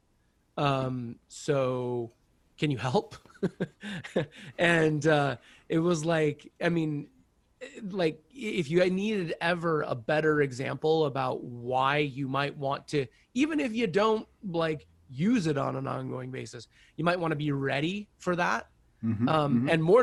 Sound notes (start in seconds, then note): 3.4 laughs loudly